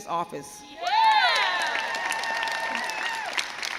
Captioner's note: crowd cheers